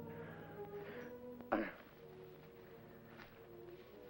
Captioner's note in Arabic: موسيقى حزينة; يتأوه هانيبال; موسيقى مشؤومة